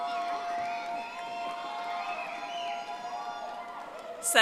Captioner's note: audience applauding